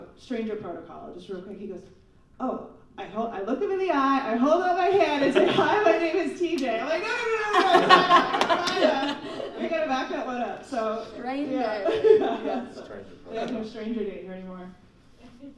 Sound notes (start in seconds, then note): 7.0 laughing